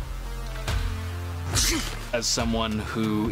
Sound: sneezes

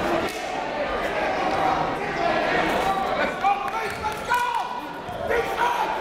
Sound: crowd talking; coaches yelling

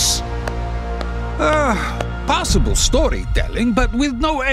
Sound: clapping

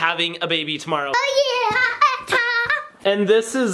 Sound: screams excitedly

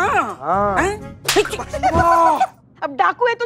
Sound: slaps; laughs

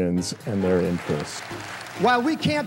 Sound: applause

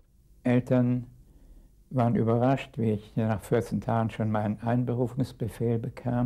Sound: speaking in a foreign language

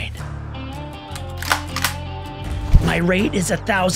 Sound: gentle guitar music; gun cocks

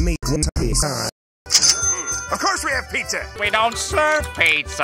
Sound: register cha-ching

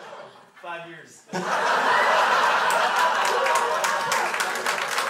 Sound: crowd laughs; crowd applauds

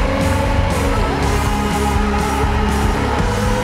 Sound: screaming

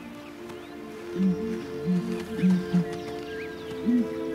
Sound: buffalo grunts

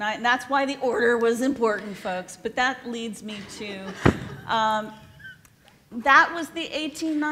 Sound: laughs

